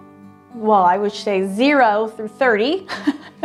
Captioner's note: laughs